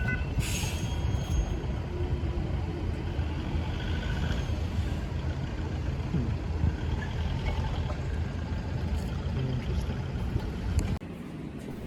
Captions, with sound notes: [ringing stops, crosswalk signals to walk] interesting